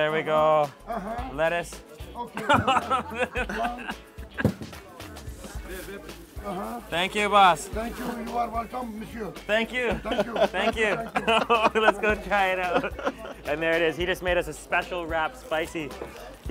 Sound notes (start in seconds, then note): 2.3 laughs; 8.4 speaking foreign language